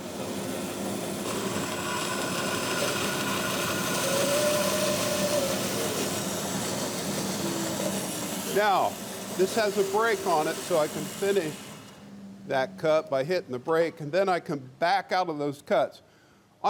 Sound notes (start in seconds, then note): 0.0 saw blade whirs